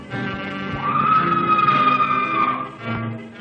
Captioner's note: woman screaming